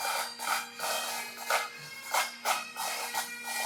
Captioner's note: applause